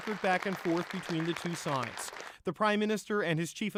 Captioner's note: applause